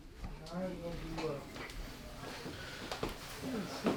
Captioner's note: distant chatter